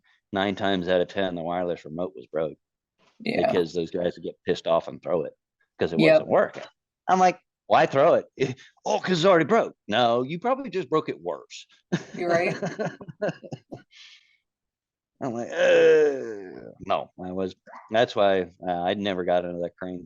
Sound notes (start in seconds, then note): 7.8 laughs; 12.4 groaning